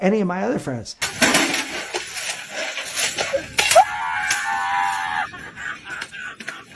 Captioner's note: thudding and crashing; people laughing out loud